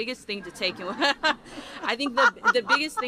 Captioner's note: laughter